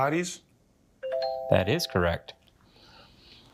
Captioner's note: bell dings